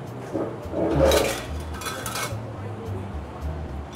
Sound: molds clattering

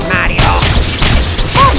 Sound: throws fireballs /w Zap noise

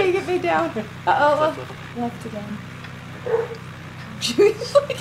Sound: dog barking

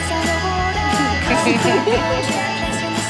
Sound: Chelsea giggling

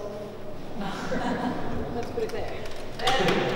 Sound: laughter

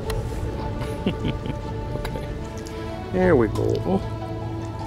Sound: laughter

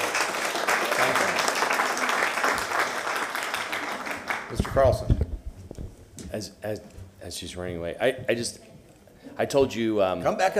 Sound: applause

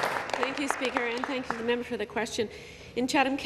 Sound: some Applause

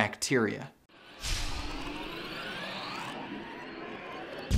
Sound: digital whooshing

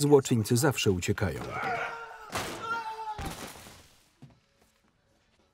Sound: screaming

